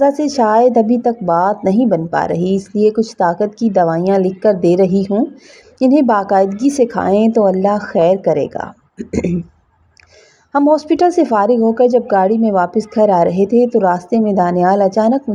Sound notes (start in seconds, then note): 9.0 clears throat